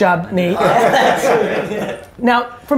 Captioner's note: group laughter